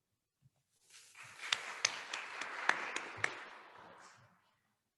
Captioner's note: attendees applauding